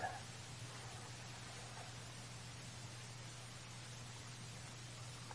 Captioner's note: water falling